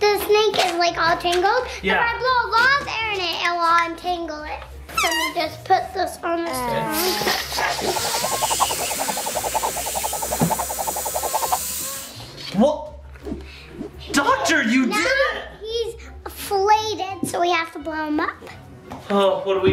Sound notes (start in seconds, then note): 6.9 air inflating; 7.2 rope whishing